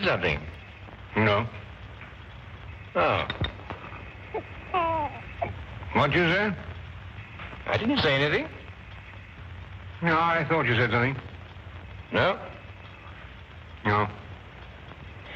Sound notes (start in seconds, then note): 3.8 cooing